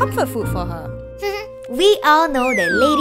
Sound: giggles

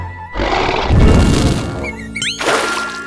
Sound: roars

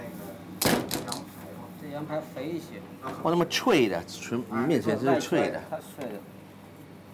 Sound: speaking Chinese

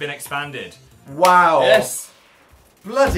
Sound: claps hands

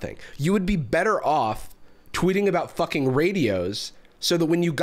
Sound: none

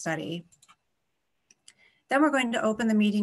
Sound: clicking

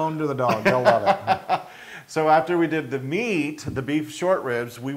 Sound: laugh

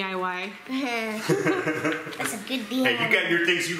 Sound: laughs

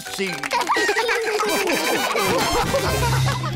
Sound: all laugh

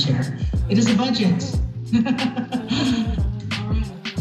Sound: laughs

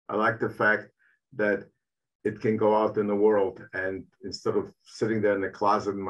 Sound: none

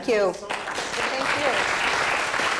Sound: applause

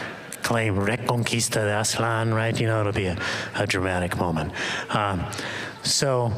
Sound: spanish

